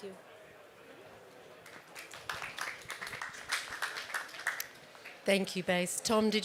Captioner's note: applause